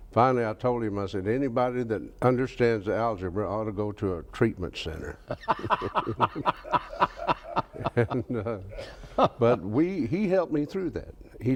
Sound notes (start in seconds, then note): 5.2 both laugh